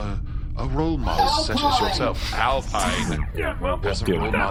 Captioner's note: yelling from afar